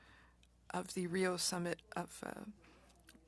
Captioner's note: speaking French